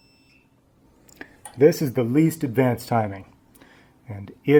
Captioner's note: beeping stops